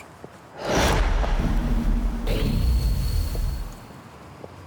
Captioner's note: wind whooshes